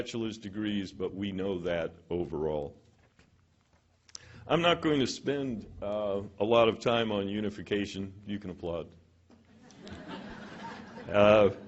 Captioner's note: laughter